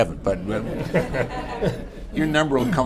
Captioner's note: laughter